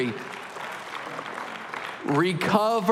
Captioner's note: applause